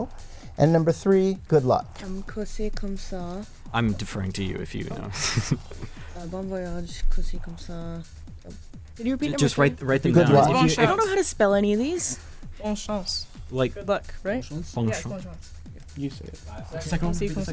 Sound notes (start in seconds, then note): 3.7 whispering